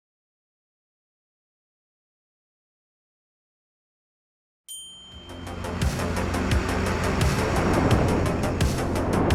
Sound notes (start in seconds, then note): 4.7 bell chiming; 5.2 exciting music